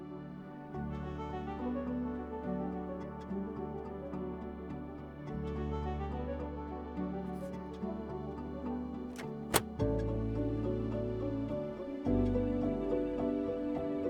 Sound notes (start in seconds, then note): 9.1 filter clicks together